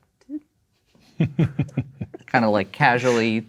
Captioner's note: chuckling